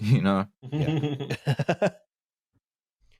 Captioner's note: laughter